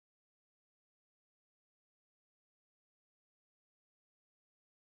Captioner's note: none